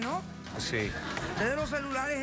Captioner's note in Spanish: risas del público